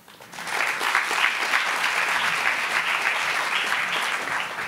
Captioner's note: applauding